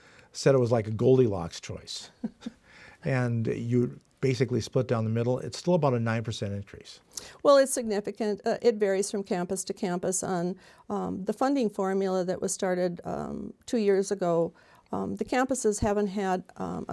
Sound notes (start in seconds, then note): 2.1 laughs